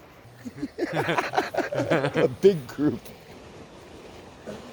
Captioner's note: laughter